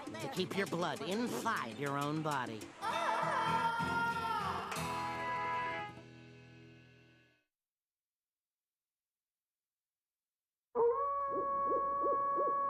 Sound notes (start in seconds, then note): 2.8 wailing; 10.8 wolves howling